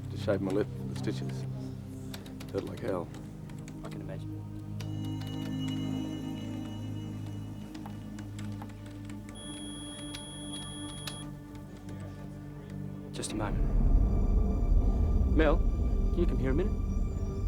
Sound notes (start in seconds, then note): 9.3 computer beeps; 13.1 dramatic music